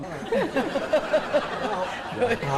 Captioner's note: laughing